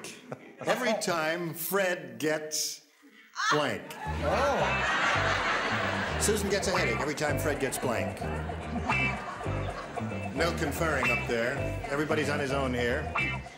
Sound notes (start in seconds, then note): 4.0 laughter